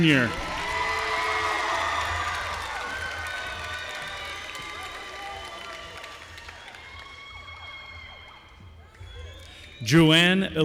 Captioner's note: applause